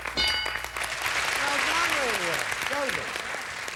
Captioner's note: audience applauding